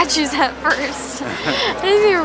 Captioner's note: laughs